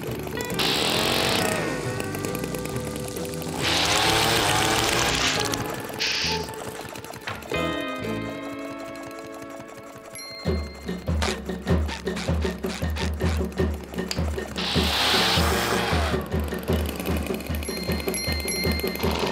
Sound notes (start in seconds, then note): 0.1 blowing air; 3.6 blowing air; 10.0 squeaky boots; 14.1 vacuuming